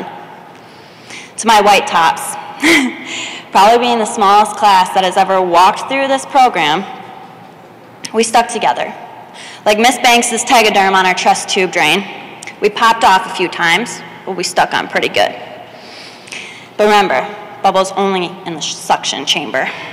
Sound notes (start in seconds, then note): none